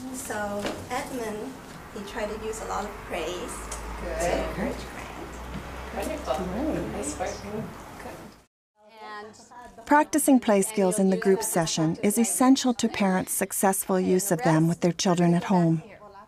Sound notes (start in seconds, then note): 4.2 voiceover; 9.9 voiceover